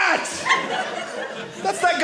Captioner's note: audience laughing